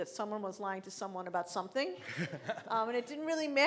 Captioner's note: laughing